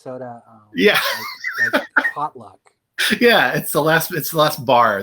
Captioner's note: laughter